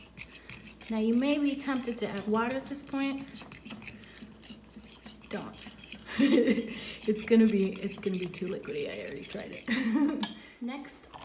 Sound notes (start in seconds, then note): 6.0 laughs